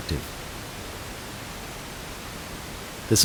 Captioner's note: pink noise playing